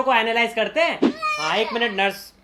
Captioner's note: baby wails